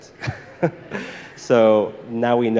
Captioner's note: all laughing